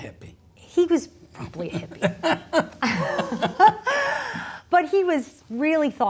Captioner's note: both laughing